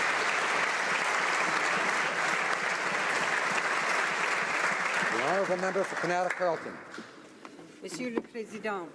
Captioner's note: applause